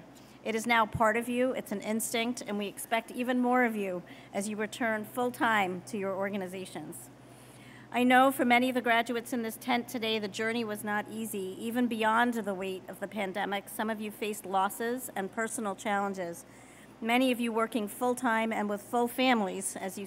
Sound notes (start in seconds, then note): none